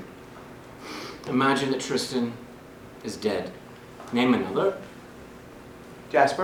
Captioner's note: sniffles